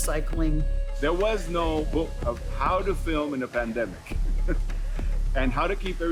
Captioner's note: chuckles